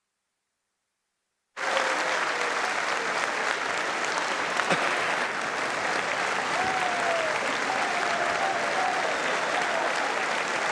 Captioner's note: applause